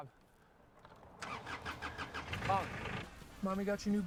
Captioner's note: el motor se enciende